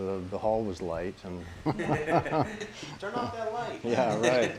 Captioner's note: laughing